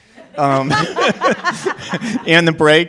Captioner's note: laughter